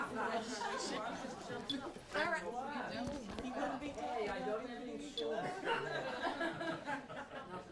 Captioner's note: students talking; laughter